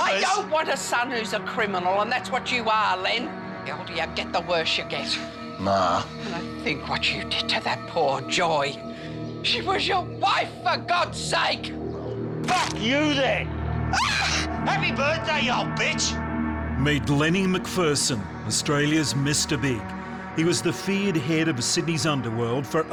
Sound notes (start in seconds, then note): 12.4 neck snaps; 13.9 mom screams